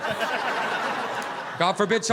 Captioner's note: audience laughing